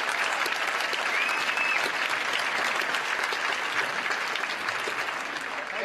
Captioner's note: cheers & applause